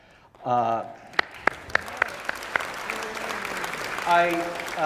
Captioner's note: audience applauding